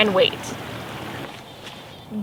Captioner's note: birds chirping